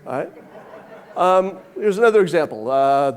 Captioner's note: audience laughing